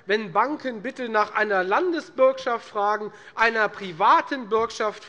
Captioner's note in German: none